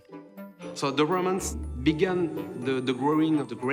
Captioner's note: with French accent